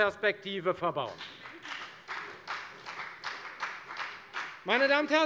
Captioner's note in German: Beifall bei der FDP